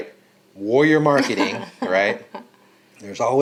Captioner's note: laughing